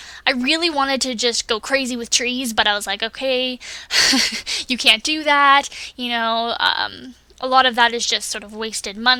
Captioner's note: laughs